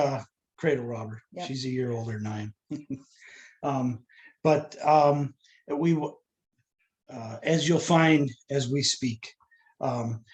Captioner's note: laughter